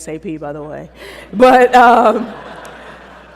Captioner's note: laughter